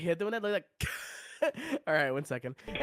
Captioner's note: wheeeeze